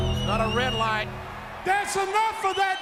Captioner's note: ominous music; audience cheers